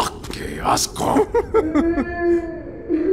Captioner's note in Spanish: Risas sensuales